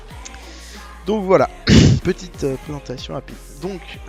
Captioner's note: cough